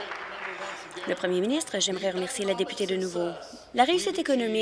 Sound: applause

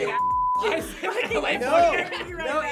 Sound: group laughs

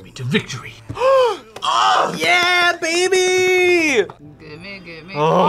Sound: gasps

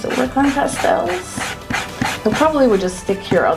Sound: eraser rubbing

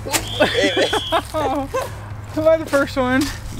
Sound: laughs

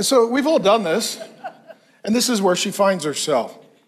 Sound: congregation laughs

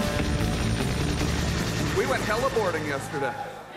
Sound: cheering

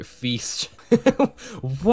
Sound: chuckle

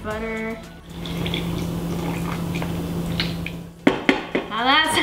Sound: butter pouring

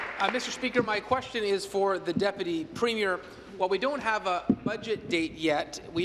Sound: applause

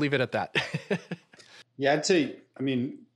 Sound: laughs

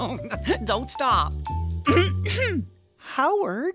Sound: chuckle of pleasure; clearing of throat

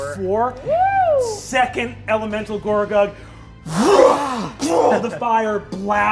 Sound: whooshes

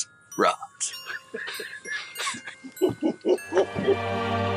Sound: laughing

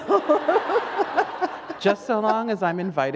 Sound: laughter

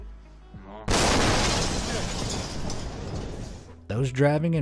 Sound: sonic boom booms

